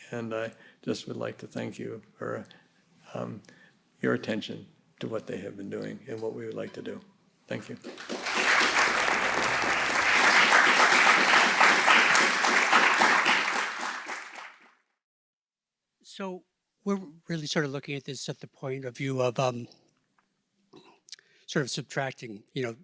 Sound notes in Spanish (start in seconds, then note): 11.4 aplausos